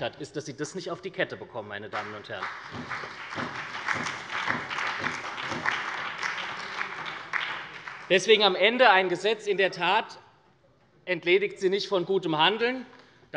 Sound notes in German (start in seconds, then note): 1.9 Beifall bei der SPD sowie bei Abgeordneten der LINKEN und der FDP